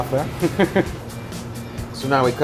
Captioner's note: laughs